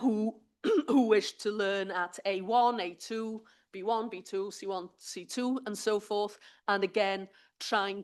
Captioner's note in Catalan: s'aclareix la gola